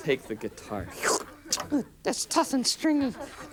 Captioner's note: slurps